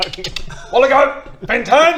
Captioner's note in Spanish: clic clic